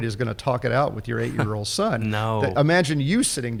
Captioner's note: chuckles